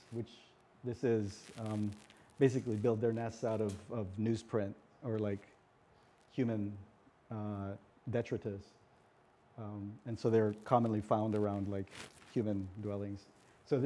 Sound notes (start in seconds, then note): none